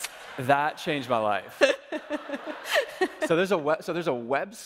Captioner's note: audience laughing